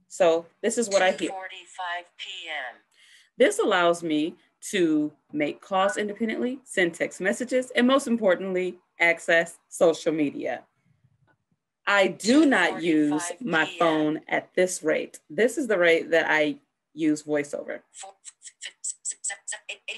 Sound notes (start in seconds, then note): 1.0 phone speaking: "2:45 PM"; 17.7 phone speaking very fast